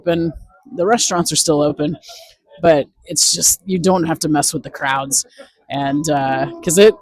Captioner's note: VO: crowds